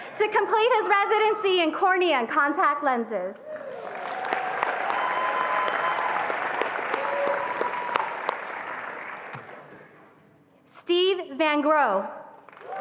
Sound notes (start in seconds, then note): 3.5 attendees applauding and cheering